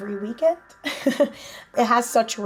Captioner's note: laughing